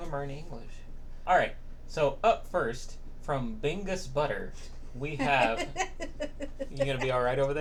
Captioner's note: laughing